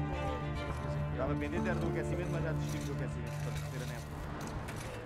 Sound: Italian spoken audio

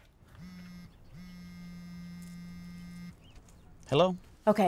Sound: phone vibrating

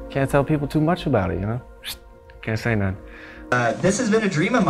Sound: smooches

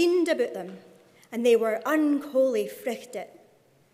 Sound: speaking in Scots

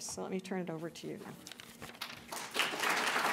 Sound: applause

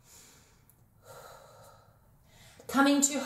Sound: exhales

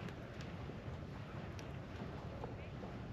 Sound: none

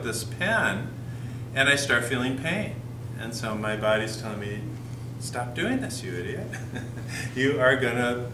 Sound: chuckle

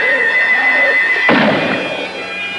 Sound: gunshot

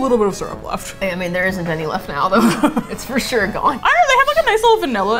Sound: laughs

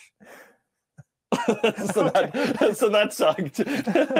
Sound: laughing

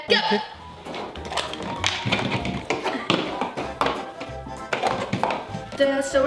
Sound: play-doh containers clanking

